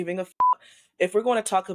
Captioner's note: beep